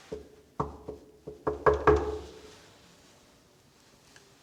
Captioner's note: Mason knocking on door